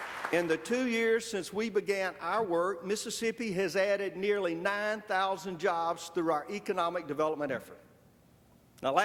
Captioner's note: applause